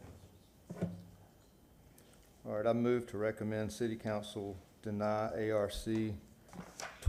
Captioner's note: off microphone